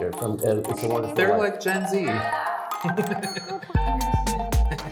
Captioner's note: laughs